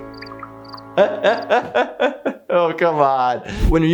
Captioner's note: laughing